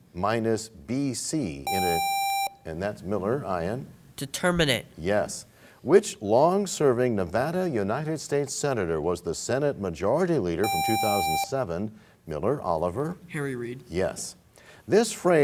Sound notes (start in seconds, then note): none